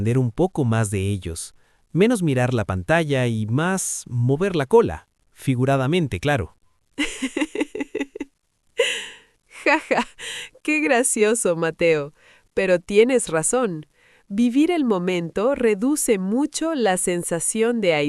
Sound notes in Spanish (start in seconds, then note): 7.0 risas